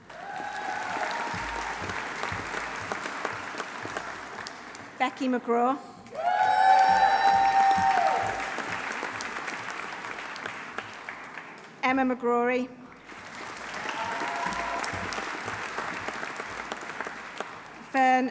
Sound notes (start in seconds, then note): 0.0 audience cheering; 0.0 audience applauding; 6.0 audience applauding; 6.1 audience cheering; 13.0 audience applauding; 13.5 audience cheering